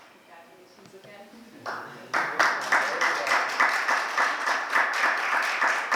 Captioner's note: applause